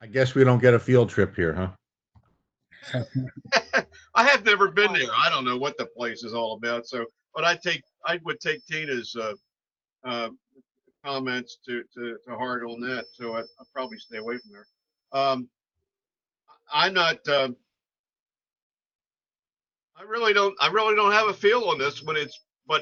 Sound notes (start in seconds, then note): 2.8 chuckling